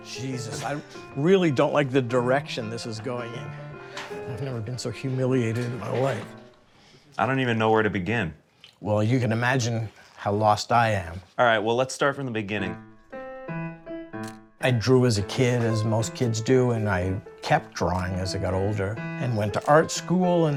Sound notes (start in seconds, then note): 13.1 gentle piano music; 14.2 camera clicks